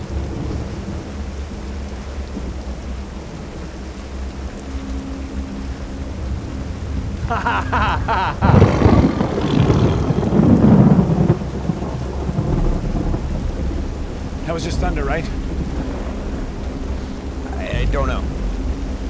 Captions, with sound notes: (Alex laughs) (thunder rumbles) (animal growls) - That was just thunder, right? - I don't know.